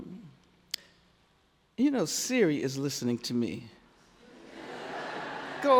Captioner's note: laughs